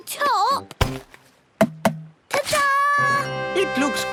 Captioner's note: tapping